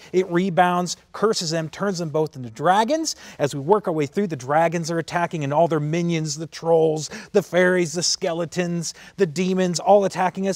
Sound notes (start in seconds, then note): none